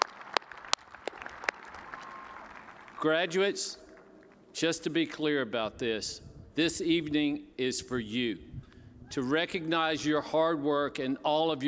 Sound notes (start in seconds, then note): 3.0 applause